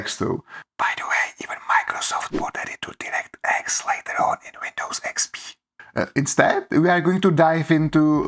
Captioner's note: whisper